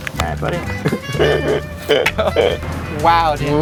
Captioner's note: laughter